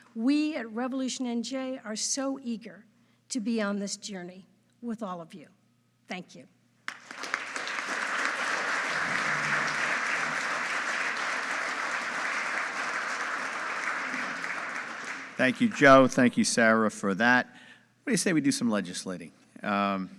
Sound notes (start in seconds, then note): 6.9 audience applauding